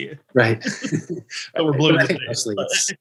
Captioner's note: chuckle